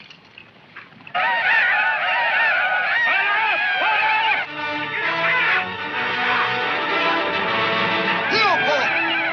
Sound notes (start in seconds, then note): 1.1 indians hollering; 7.7 Indian speaks in foreign language